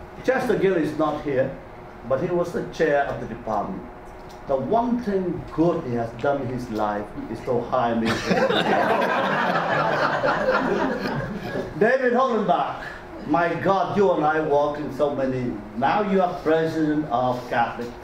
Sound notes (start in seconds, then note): 8.1 audience laughter drowns out